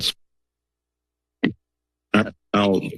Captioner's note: silence